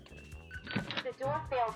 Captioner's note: Eufy lock beeps; door clatters